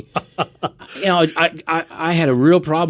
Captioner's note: laughing